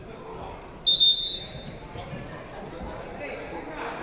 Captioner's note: whistle blaring